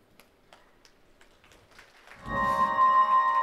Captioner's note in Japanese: 拍手の音; 神秘的な音楽